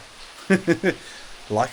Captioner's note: laughs